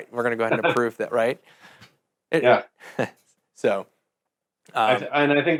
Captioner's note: laughing